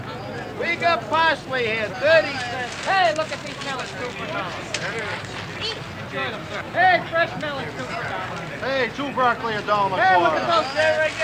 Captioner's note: vendors selling, people shopping